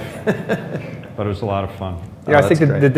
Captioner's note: laughs